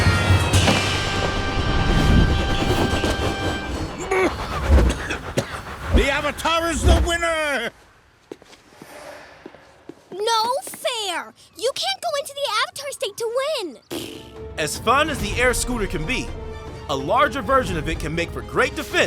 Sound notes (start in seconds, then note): 4.7 coughing; 13.9 blows a raspberry